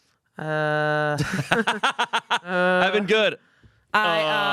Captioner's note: everyone laughs